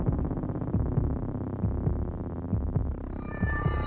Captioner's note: mysterious music; heart beating